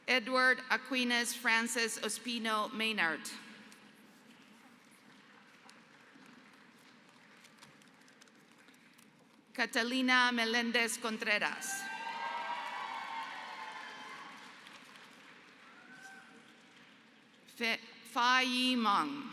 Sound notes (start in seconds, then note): 6.2 applause; 11.8 applause